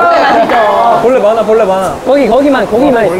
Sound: argh

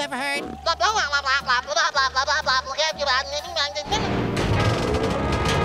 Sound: talking gibberish

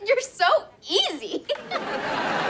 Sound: laughs

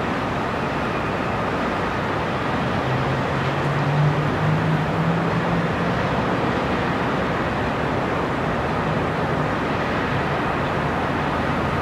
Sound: city sounds and distant cars

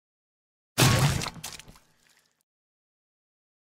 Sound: meat Crushing Sound

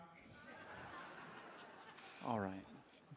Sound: audience laughing

